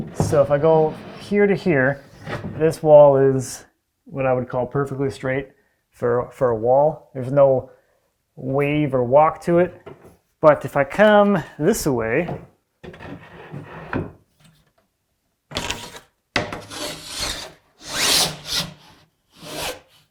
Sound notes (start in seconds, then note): none